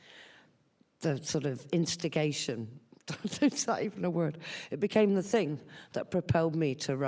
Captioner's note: laughs